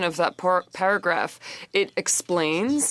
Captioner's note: speaking French